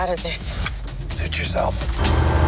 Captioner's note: engine revs; engine roars